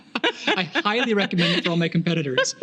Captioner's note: laughing